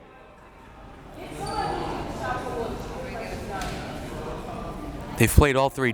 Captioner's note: crowd members talking